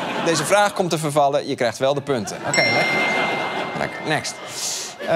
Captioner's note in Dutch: ping